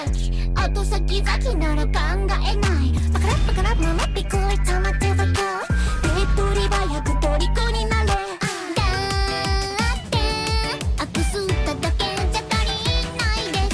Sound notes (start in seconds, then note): 0.0 upbeat music; 2.6 speaking in foreign language; 8.9 upbeat music